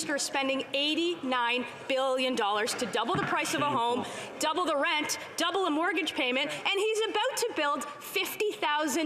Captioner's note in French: voix de l'interprète